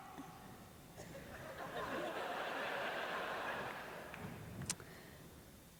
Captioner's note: laughter